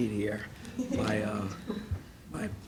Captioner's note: laughing